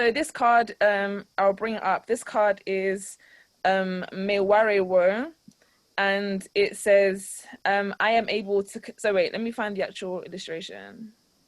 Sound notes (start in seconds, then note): 2.8 in foreign language